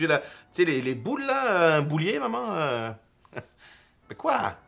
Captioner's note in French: petit rire